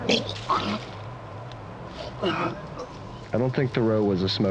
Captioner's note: Oliver retching